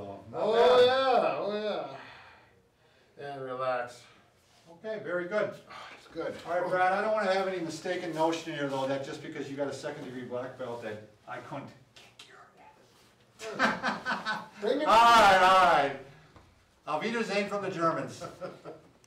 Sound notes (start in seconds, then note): 12.2 whispers; 13.4 laughs; 17.2 speaks in German